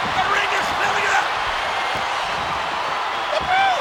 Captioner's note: crowd cheering